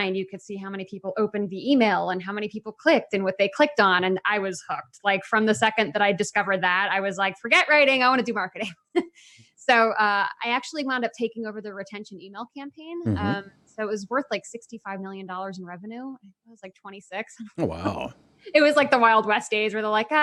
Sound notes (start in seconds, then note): 17.6 laughs